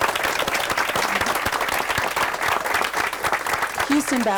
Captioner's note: group applauds